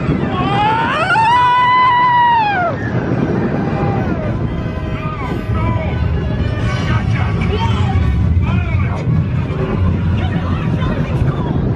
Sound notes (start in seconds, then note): 0.8 coaster rumbling; 0.8 screaming; 6.5 dramatic orchestral music